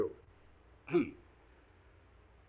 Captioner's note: Watson coughs